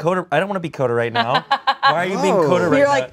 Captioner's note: laughs